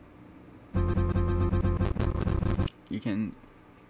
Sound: endless cascade of error sounds

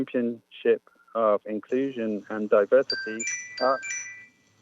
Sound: chime

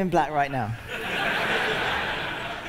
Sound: laughter

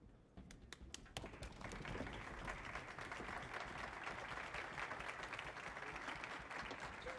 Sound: applause

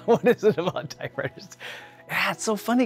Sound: laughing

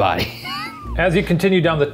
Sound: laughing

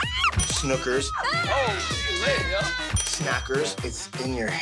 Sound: snooki mumbling; yelling

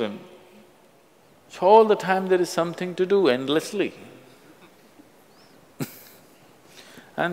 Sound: laughs

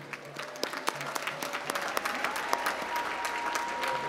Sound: applause

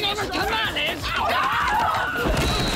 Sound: screaming

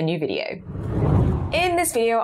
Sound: screen whooshes

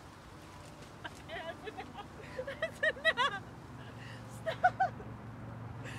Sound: laughing

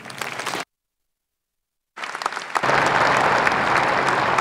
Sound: applause

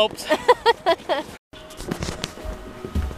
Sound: laughing

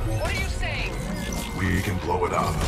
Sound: radio

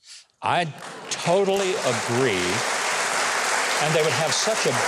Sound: audience applauding

